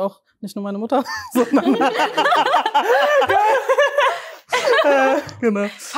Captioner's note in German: Gelächter